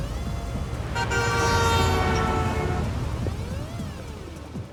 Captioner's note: car horn honks